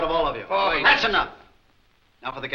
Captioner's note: men grumbling